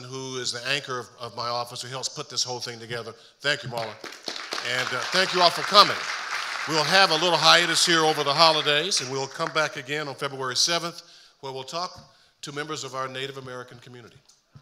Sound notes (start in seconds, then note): 3.8 audience applauding